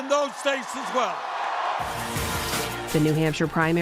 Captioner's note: cheering and applause